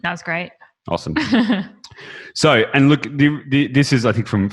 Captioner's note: chuckles